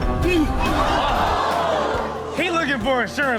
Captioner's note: everyone laughs; audience gasps